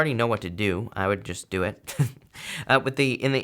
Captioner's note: chuckles